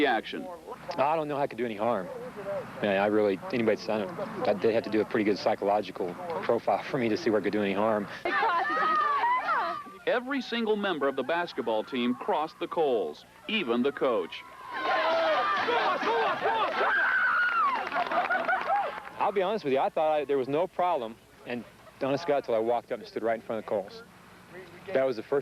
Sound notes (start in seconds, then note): 8.8 girls shouting; 15.0 shouting